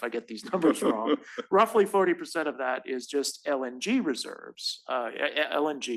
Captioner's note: laugh